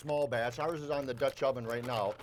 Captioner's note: package crinkles